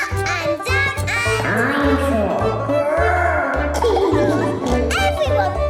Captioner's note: laughing